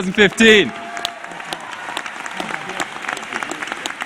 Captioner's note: cheering